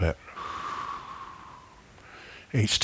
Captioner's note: breathing